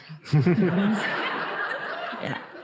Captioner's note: audience laughing